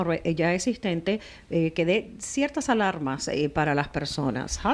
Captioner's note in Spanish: Hablando ingl\s